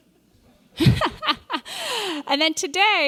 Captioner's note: laughs